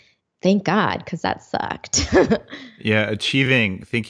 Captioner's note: laughs